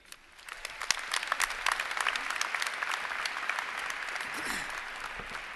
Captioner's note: applause